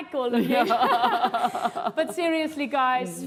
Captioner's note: laughs